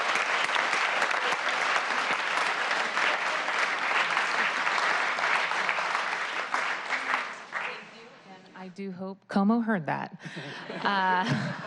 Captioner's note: applause